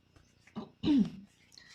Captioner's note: clearing throat